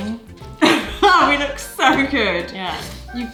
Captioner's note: laughs